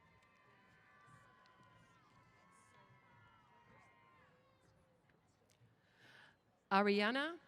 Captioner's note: cheers